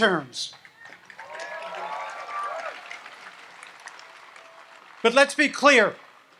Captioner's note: audience applauds and cheers